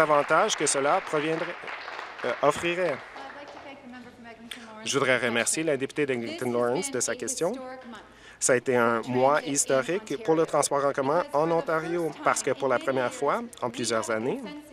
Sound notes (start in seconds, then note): 4.0 applause